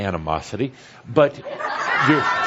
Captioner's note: laughter